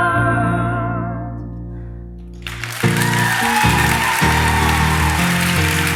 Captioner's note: audience cheers and applause